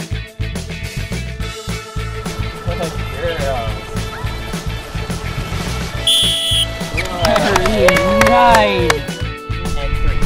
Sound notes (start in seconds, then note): 6.0 whistling